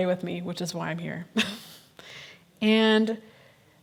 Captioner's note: chuckles